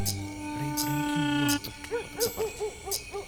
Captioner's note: murmuring